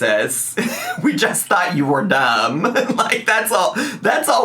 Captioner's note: laughs